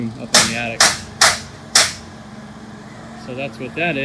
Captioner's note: nail gun firing